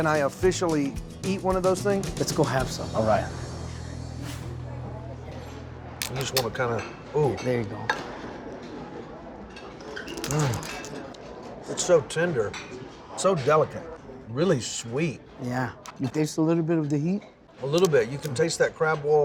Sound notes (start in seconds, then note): 6.0 shell cracking